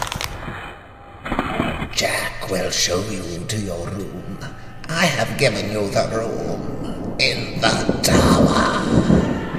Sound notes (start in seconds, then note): 0.0 disturbing soundscape; 1.8 Julia Stone rasping